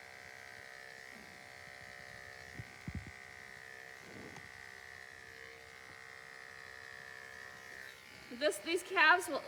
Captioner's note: clippers buzzing